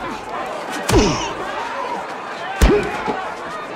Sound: grunting

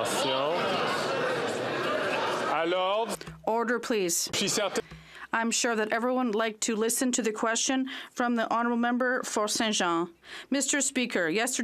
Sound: chatter

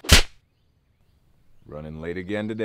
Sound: loud slapping

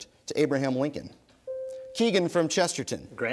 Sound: bell dings

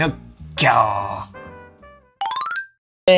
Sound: lion roar in Japanese

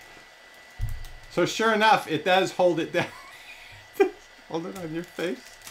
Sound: laughs

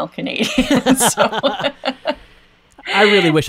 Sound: both laugh

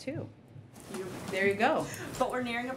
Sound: laughs

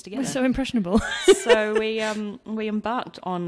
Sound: laughs

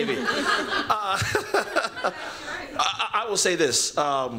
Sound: laughter

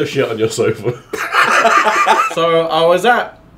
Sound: laughing

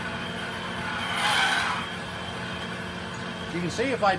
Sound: metal screeching

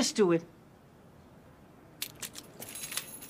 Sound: keys jangling

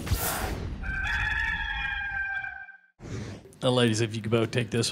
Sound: rooster crows

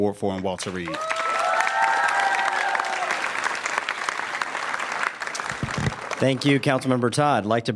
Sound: applause

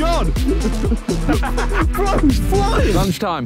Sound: Tobi laughing

